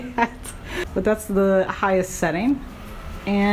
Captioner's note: laughing